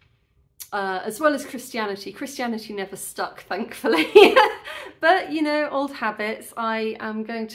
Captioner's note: laughing